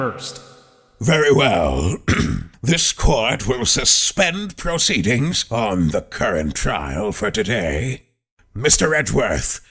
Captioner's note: ahem